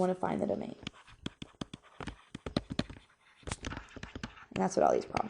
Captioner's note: stylus writing on board